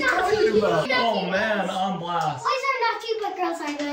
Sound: child exclaiming

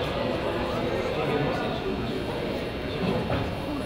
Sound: crowd chatters

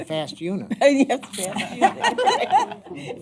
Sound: laughing

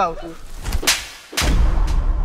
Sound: slapping

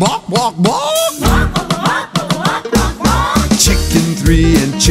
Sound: kids repeat

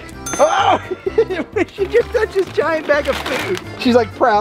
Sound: laughter

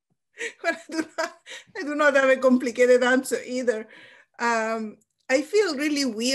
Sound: laughs

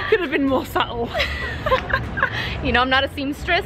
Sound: laughing

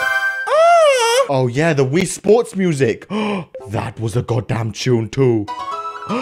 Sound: le gasp

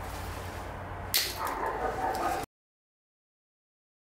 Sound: sound of glass shattering

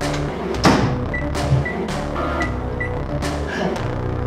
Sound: microwave beeps

